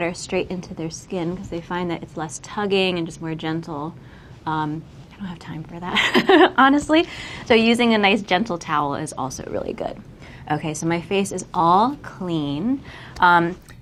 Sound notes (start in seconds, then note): 6.5 laughs